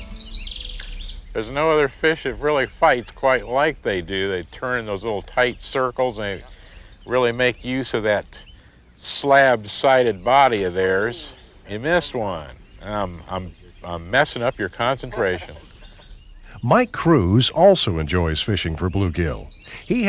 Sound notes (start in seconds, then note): 15.5 laugh